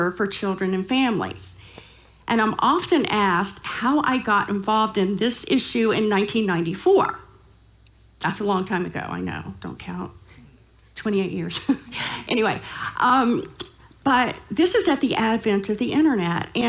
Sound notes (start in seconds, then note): 11.4 laughing